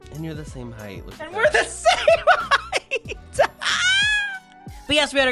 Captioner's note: laughing